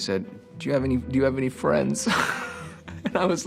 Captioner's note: laughs